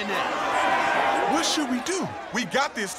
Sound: cheering

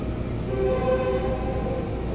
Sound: train horn

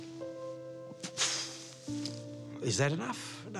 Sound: exhales

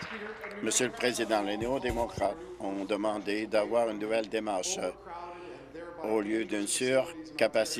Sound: applause

